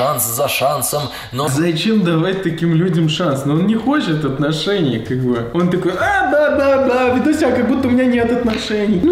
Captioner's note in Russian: Эмитирует Патрика